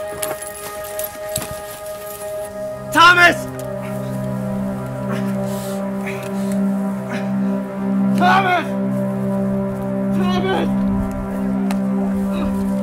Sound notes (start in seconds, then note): 10.0 calls of "Thomas! Thomas!"